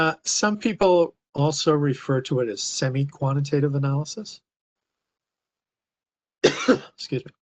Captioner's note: cough